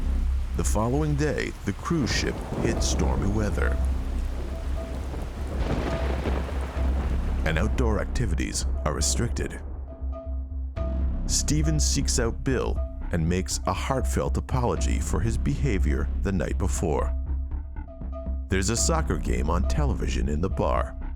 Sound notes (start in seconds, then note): 5.3 thunder booming